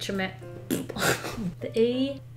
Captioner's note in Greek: Πρρρ, γελάει